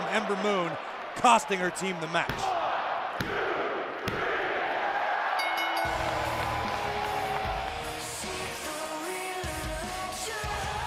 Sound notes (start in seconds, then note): 5.4 bell ringing; 5.9 crowd cheering